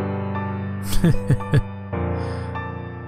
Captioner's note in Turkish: Heh heh